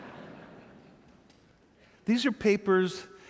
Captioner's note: audience chuckling